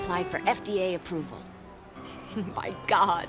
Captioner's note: people chattering